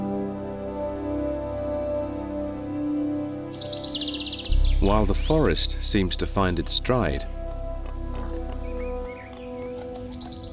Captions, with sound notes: [birds calling] While the forest seems to find its stride... [boar snorting]